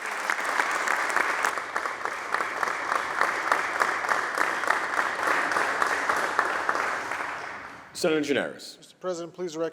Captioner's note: applause